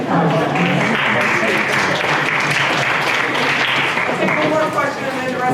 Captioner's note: applause